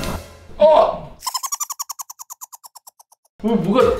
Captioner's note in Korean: 놀라서 뮤트된 채로 웃음